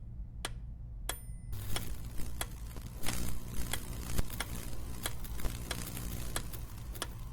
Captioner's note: metronome clicking; lights buzzing